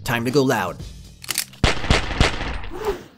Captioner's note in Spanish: disparos en cámara lenta